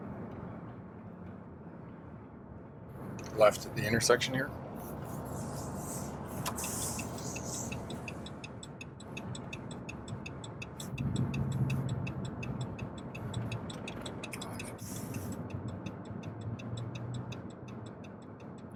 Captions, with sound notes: Left at the intersection here. (turn signal blinking)